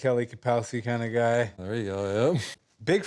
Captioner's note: chuckling